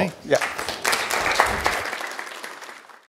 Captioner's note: audience clapping